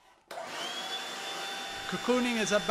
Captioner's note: hoovering